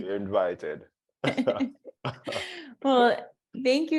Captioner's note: laughter